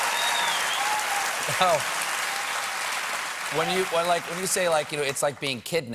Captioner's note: cheers and applause